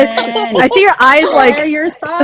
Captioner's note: laughs